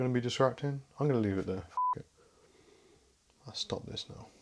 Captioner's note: beep